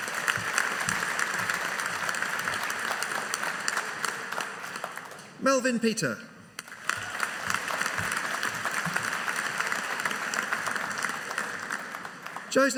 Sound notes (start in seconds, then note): 0.0 audience applauding; 6.6 audience applauding